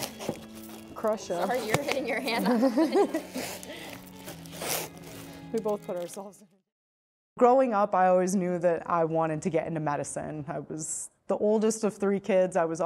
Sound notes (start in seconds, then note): 2.3 pair laughing